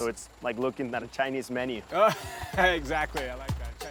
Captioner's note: laughs